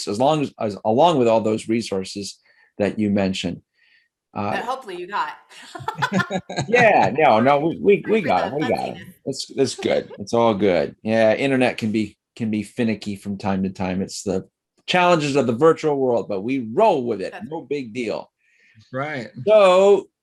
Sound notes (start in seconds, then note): 5.6 all laugh